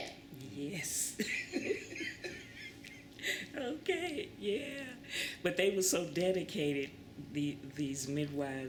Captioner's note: laughter